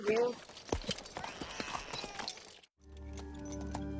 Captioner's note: baby Crying